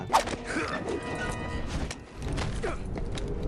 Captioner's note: Snake grunts